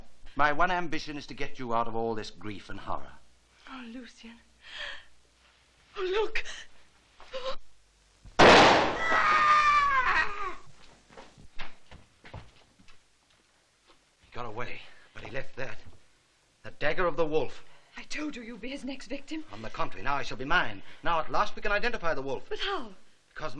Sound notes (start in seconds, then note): 4.8 gasping; 8.8 angonised screaming